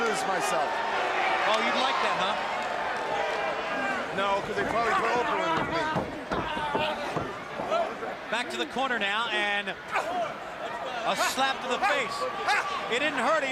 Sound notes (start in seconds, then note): 7.5 crowd chatter